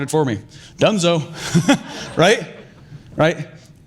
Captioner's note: laughing